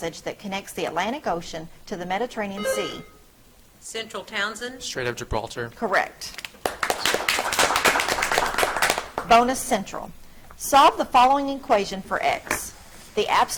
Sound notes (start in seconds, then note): 2.6 buzzer trills; 6.5 audience clapping